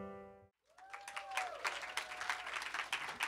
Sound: cheers and applause

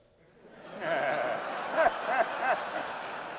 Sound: laughter

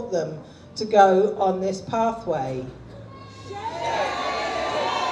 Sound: audience jeers

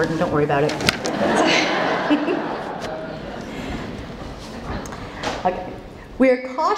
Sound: laughter

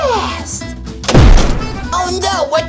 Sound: thump

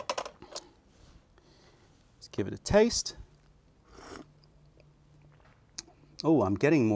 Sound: sips tea

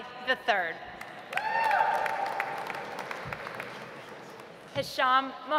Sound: audience applauds

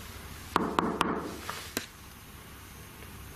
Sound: knocks

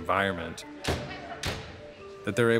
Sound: closing ambulance doors

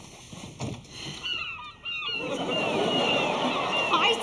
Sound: seagulls squawking

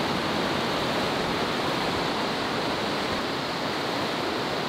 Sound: walking through water

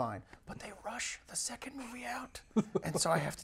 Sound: whispers

